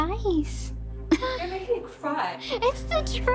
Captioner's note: laughs